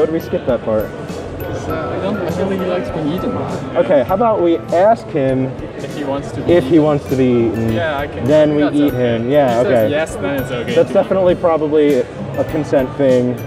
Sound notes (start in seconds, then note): none